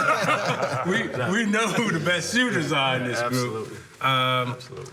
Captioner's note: laughter